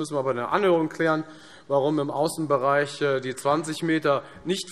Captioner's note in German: none